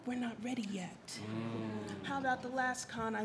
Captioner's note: audience groans